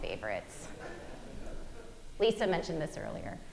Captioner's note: audience giggling